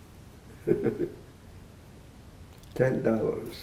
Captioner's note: laughing